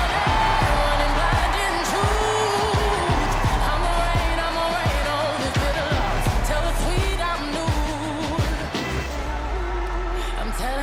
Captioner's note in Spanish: VíTORES